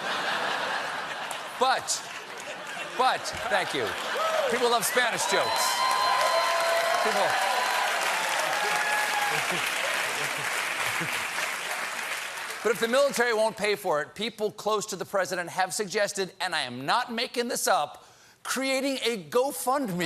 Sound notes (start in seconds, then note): 3.8 applause; 3.8 laughter; 12.8 applause